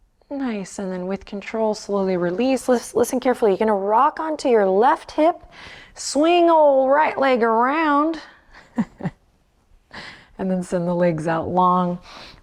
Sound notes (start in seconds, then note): 8.6 laughs